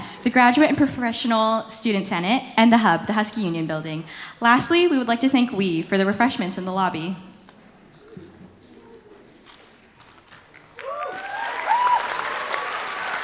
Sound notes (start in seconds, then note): 10.5 applause